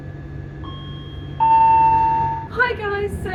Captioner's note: train announcement chime